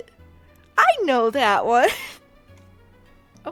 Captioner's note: wheeze